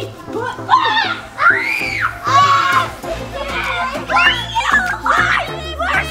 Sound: girls scream

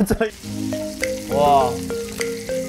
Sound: sizzling

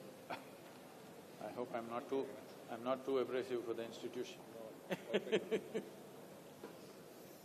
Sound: laughs

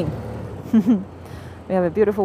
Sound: laughs

